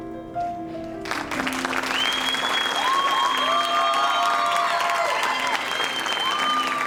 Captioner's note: audience applauding and cheering